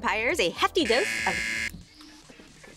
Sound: buzzer

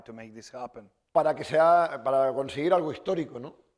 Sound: speaking spanish

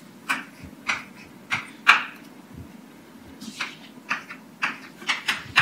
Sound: chalk writing on chalkboard

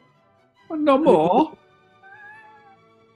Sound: italian accent

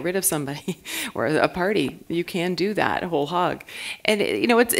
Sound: chuckle

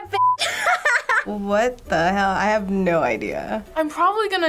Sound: laughs

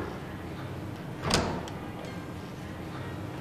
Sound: door closing; door opening

